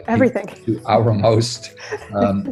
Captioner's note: giggles